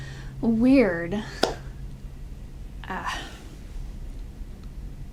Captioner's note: person claps